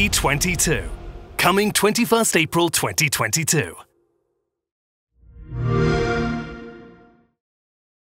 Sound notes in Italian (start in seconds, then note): 5.3 xbox sound